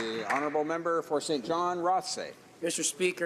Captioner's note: some Applause